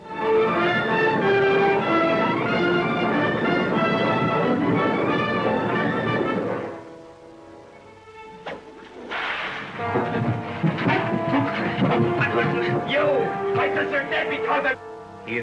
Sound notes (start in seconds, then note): 0.1 classical music; 8.8 cracking whip; 11.3 clamouring